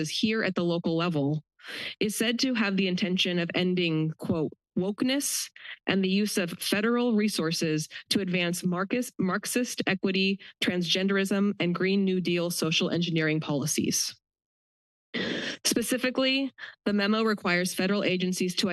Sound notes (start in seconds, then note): 15.2 pause